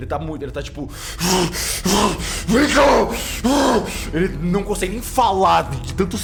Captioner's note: panting harshly